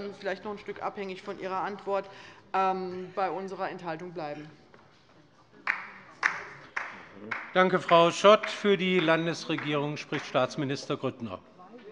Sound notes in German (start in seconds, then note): 5.6 Beifall bei der LINKEN